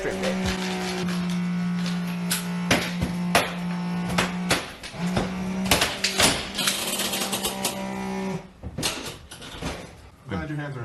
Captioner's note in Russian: бззззззз